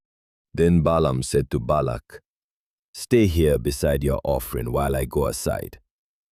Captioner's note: thoughtful